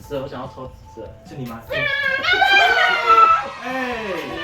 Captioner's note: weird turkey noises